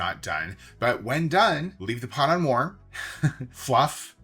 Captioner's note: laughs